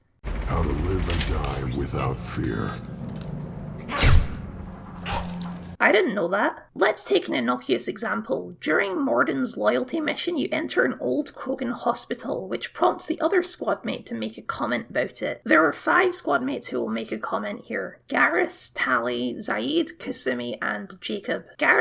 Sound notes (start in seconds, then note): 3.8 bang; 3.9 splat